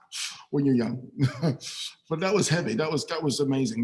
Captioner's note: laughs